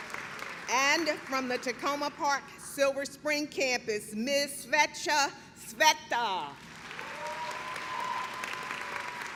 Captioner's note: clapping